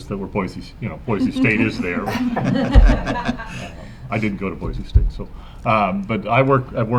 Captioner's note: laughter